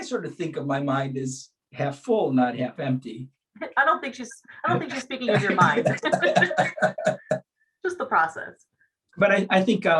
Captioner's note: laughs